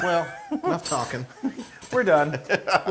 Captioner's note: laugh